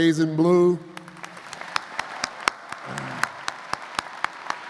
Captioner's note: audience applauds